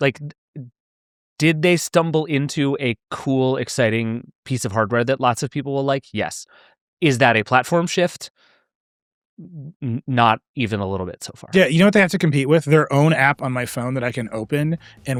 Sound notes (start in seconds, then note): none